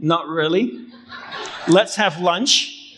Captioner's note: crowd laughing